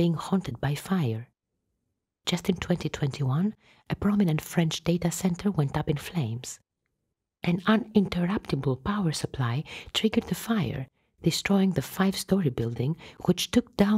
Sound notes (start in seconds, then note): none